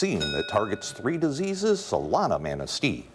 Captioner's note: ding